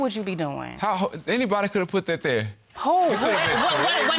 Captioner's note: stammers; audience laughing